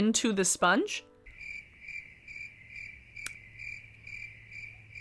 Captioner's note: crickets chirp